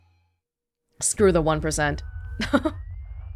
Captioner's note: chuckles